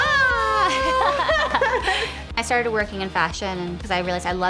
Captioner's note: laughing